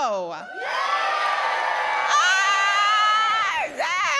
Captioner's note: loud cheering